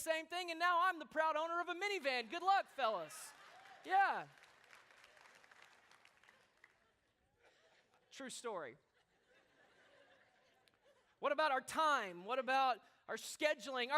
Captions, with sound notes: and now I'm the proud owner of a minivan, good luck fellas. Yeah. (applause) True story. (laughter) What about our time, what about our scheduling,